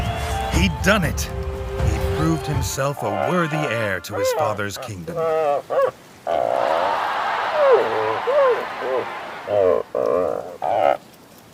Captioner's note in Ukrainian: Оплески